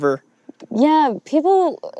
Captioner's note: none